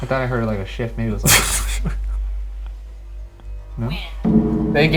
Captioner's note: laughing